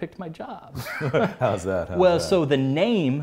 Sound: laughs

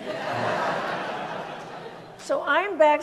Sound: audience laughs

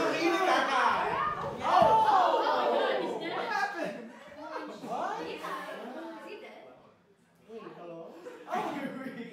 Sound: general confusion and New Yorker ruckus

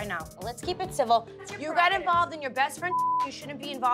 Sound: beep

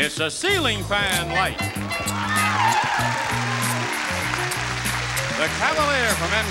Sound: smooth jazz music; audience cheering

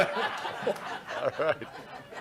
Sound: laughter

